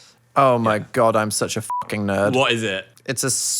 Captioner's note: beep